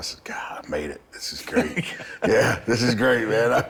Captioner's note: Bron laughing